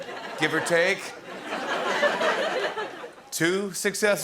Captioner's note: laughter